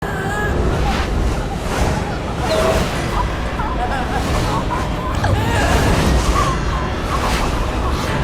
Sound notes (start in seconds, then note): 0.3 dramatic music; 0.6 gasping